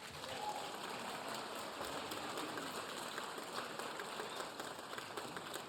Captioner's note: audience applauding; audience cheering